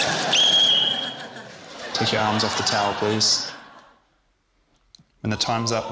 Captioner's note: whistle trills